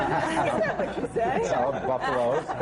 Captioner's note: laughter